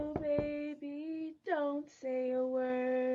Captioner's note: knocking on the door